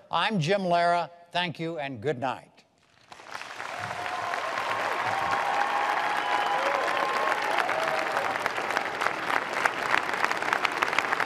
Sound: cheers, applause

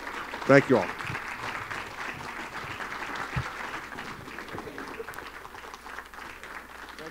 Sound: applause

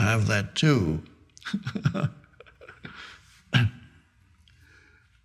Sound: Eckhart laughing

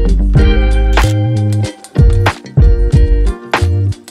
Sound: camera shutter clicks

